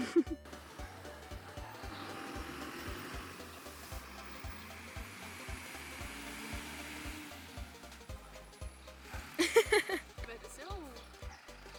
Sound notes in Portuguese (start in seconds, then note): 0.2 som de caminhão